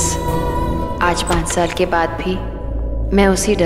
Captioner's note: Door opens